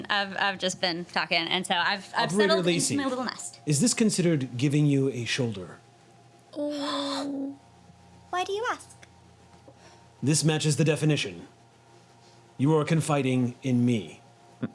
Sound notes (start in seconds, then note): 6.9 gasps